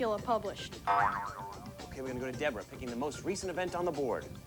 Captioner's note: boing